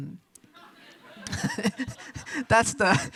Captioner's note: audience chuckles